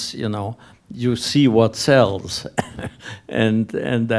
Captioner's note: laughs